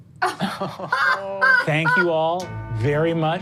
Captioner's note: all laugh